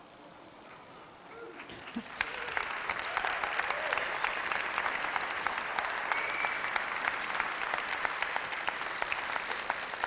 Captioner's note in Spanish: Aplausos